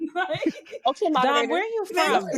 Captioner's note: laughing